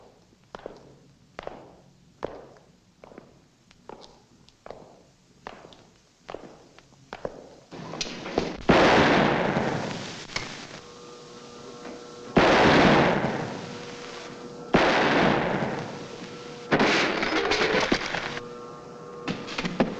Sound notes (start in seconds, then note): 8.8 gun fires; 11.7 machine whirs; 12.4 gun firing; 16.7 Donelli crashes